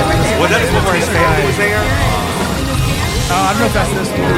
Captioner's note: and started sobbing unable to look back up again